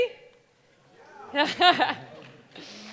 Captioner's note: laughing; audience exclaiming